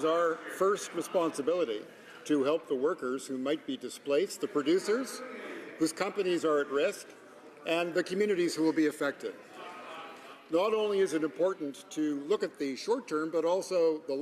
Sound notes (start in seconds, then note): none